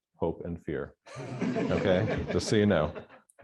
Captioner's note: laughter